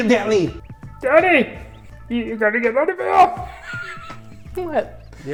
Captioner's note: cracks up